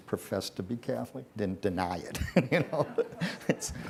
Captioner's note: laughs